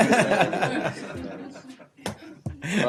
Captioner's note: laughter